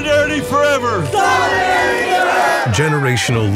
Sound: crowd

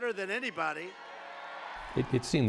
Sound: crowd cheer

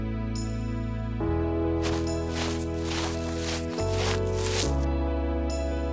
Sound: footsteps

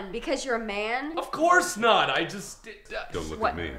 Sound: stammers

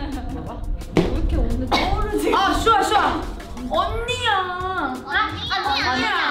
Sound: chuckles; speaks in Korean

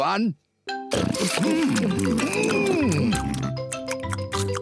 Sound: all chomping

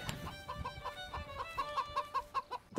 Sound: chicken clucking

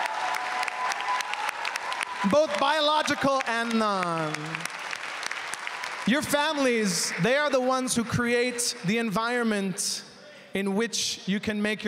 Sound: applause

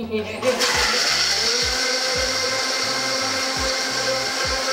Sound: mixture blending

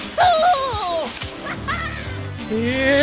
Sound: skis and snowboards sliding on snow

